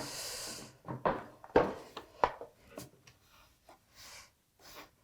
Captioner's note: wood on desk thumping